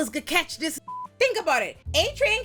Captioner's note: beep